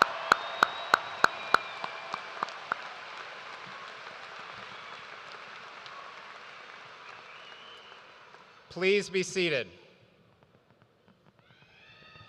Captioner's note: cheers and applause